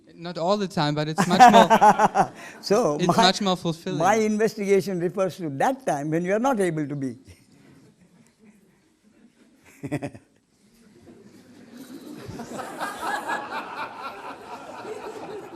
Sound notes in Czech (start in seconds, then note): 11.9 smích